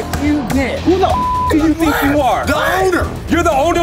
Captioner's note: beeps